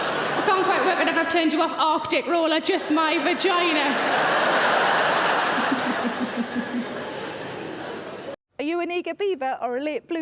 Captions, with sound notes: I can't quite work out if I've turned you off Arctic roll or just my vagina. (audience laughing)